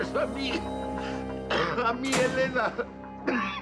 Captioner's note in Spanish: sonido cerrar puerta